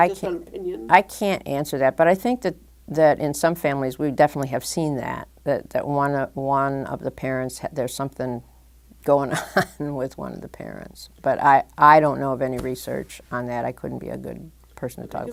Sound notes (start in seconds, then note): 9.1 chuckle